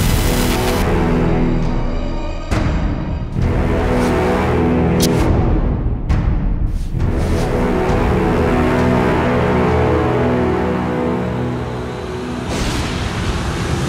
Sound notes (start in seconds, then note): 0.1 suspenseful dramatic music; 4.9 stabbing; 8.6 suspenseful dramatic music